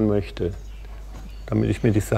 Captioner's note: quiet birdsong